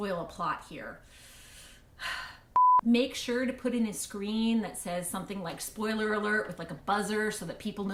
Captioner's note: heavy sigh